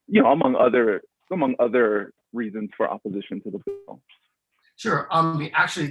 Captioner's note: distorted sound